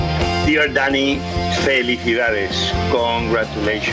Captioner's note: speaking in foreign language